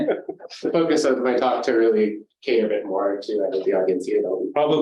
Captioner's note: light chuckling